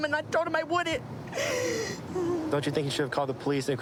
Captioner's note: sobbing